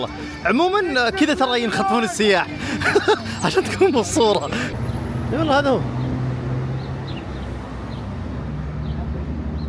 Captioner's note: laughs